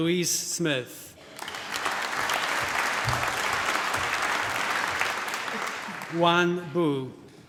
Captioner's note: applause